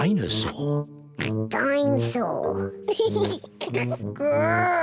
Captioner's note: oinks; laughs